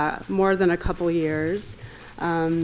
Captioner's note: none